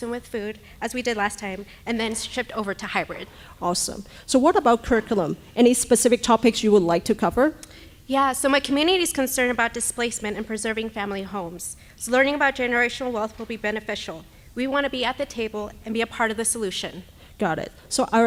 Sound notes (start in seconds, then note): none